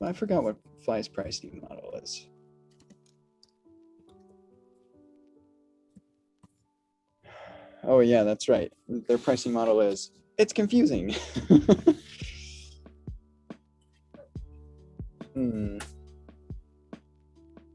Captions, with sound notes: I forgot what Fly's pricing model is. Oh, yeah, that's right. Their pricing model is, it's confusing. (laughs)